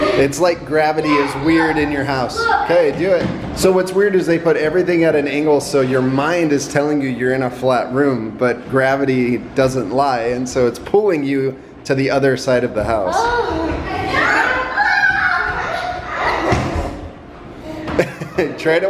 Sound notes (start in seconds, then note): 13.0 kids yelling; 17.7 laughs